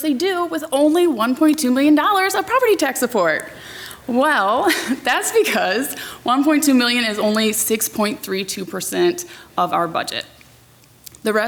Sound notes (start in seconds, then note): 4.4 laughs